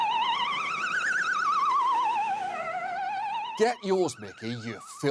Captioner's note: shrill ambulance wails